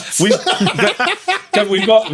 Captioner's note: laughing